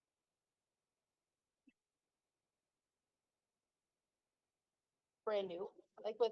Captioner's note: no audio-break